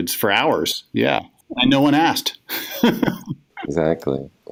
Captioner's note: laughs